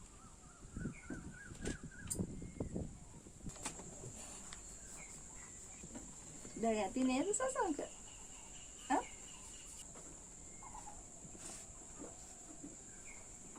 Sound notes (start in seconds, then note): 0.1 birds chirping; 6.8 speaking in foreign language